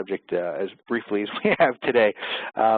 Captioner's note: laughs